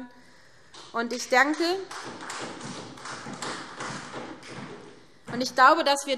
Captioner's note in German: Vereinzelter Beifall SPD und DIE LINKE